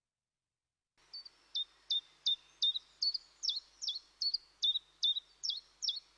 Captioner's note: bird chirping